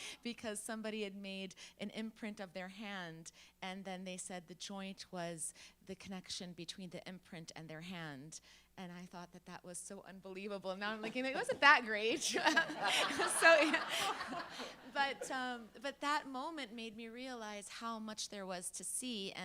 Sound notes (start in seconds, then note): 12.2 laughing